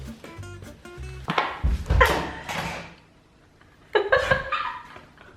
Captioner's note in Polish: trzask i śmiechy